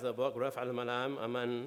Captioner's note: speaking in foreign language